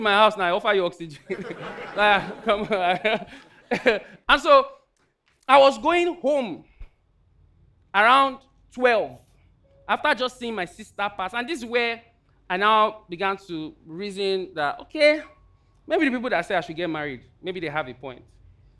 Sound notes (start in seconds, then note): 1.1 audience laughing